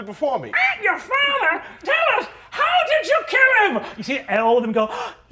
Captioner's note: squawks